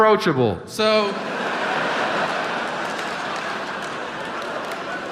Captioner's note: audience laughs